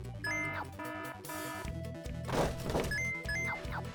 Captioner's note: alarm rings